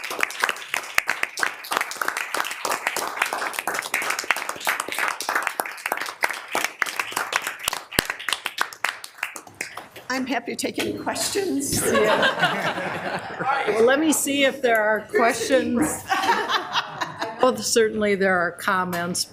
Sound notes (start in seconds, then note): 11.7 people laughing